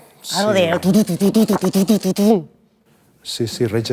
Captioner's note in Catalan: imitando batería